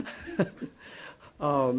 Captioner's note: laughter